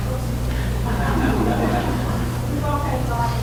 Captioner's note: audience laughs